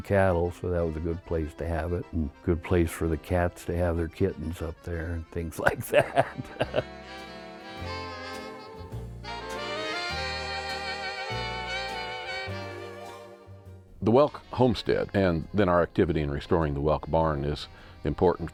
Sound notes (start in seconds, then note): 5.7 laughs; 7.6 mid tempo music